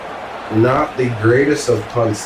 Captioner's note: crowd Noises